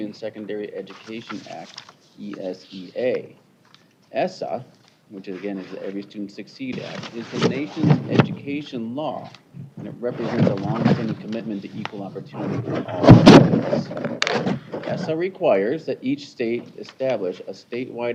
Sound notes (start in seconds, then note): none